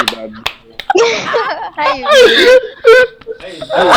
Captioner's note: my sister in law laughs